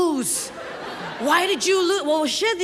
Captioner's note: audience laughs